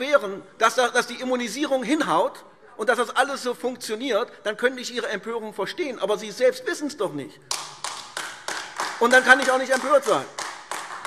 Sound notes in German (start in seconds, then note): 7.4 Beifall AfD